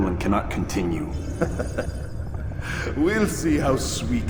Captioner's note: laughs